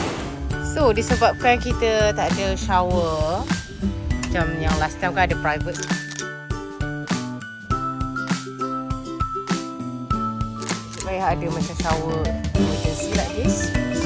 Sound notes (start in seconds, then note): 5.7 camera snap; 6.7 background music; 10.6 camera snap